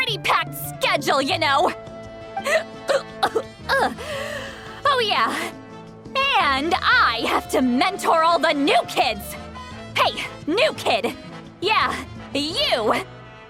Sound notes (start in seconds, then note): 2.8 hic